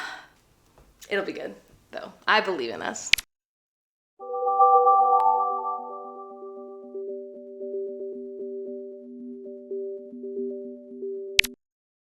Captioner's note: Wii welcome screen noises